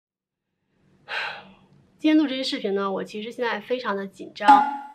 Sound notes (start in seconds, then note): 1.0 sigh